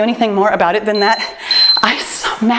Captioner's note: timer beeps